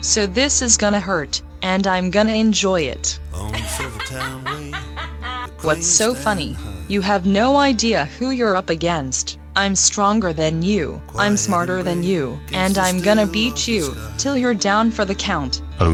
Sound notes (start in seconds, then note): 3.4 laughing